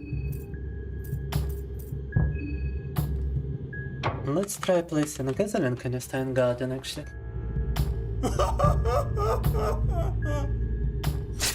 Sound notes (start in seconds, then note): 8.2 laughing